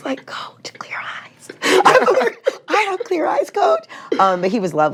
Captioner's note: chuckles; laughs